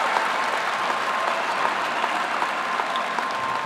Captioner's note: applause